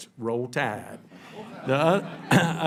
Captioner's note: laughter